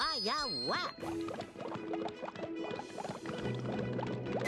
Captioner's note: water bubbling